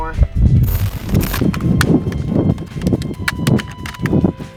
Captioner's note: Legos tapping